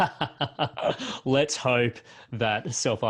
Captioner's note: both laugh